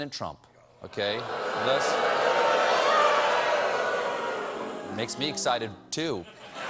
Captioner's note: audience booing